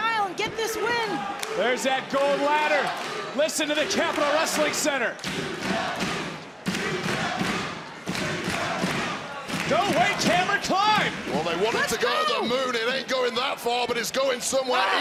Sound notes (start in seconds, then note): 5.2 crowd chants